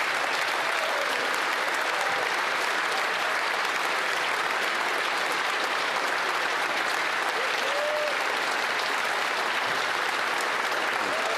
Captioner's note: applause